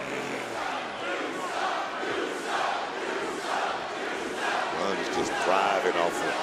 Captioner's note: crowd chants "you suck."